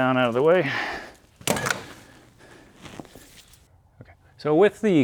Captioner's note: drilling